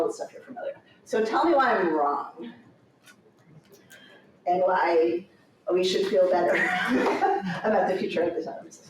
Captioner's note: chuckles